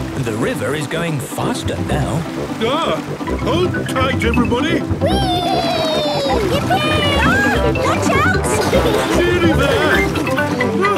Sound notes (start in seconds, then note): 5.1 George giggles